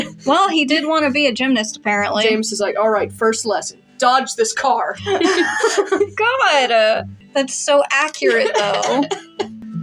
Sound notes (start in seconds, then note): 5.0 laugh; 5.0 giggle; 8.2 laugh